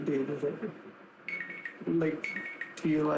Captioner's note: ringing